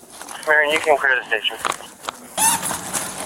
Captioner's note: radio chatter